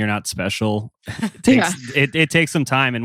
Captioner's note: laughs